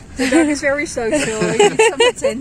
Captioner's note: laughing